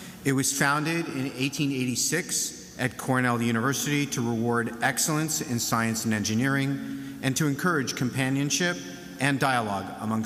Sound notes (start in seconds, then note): none